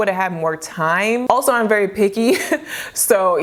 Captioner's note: chuckles